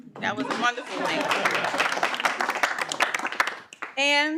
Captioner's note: audience applauding